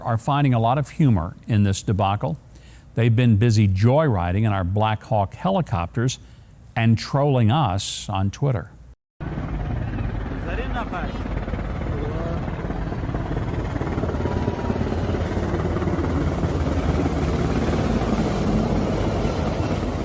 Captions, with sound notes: are finding a lot of humor in this debacle. They've been busy joyriding in our Black Hawk helicopters, and trolling us on Twitter. (helicopter blades chopping)